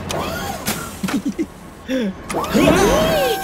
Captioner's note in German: kichert